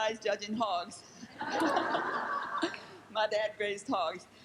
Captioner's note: laughing